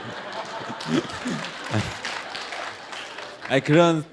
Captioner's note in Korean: 청중 박장대소